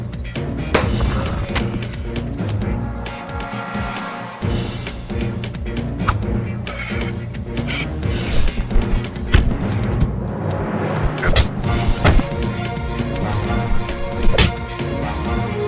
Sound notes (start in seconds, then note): 11.0 punch thudding; 12.5 suspenseful music